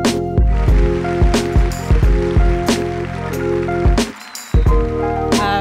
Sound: applause

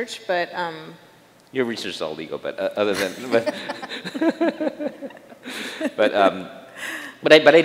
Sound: chuckles

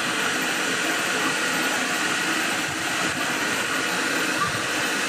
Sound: intense printer fan noises

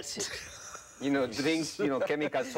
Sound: laughing

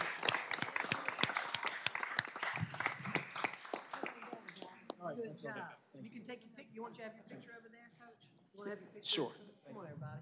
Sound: applause

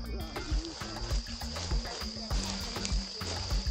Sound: leaves crunching underfoot

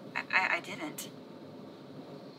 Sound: stutters

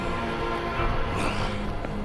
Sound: growling

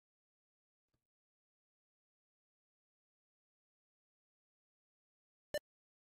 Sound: silence

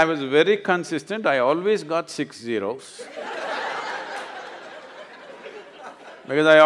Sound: laughter

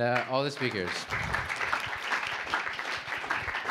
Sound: applause

